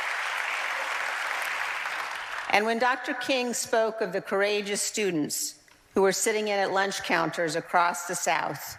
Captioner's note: applause